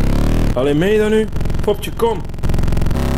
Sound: in Flemish

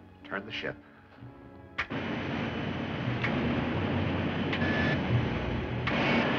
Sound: gyros Roaring

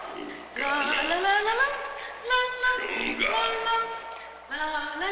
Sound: speaking in a foreign language

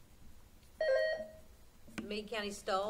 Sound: buzzer sounding

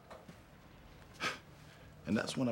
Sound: sighing

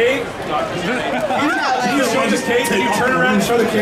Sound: audience chattering

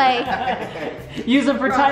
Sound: laughing

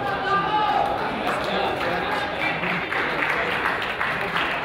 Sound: crowd applauds and yells

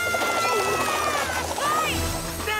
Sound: air flapping

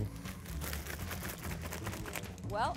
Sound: tea sloshing

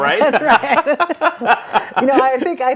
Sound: laughter

